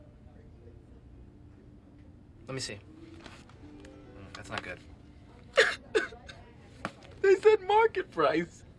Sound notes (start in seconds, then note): 5.4 TROY sobs